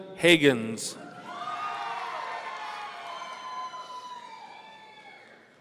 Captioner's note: audience cheering